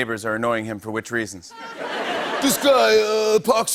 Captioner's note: laughter